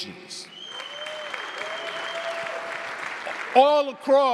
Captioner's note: audience cheering